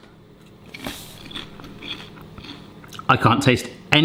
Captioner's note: crunching